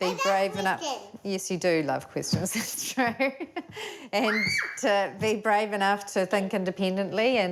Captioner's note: laughs; squeals